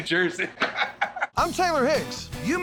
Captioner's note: laughter